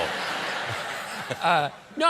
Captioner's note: laughter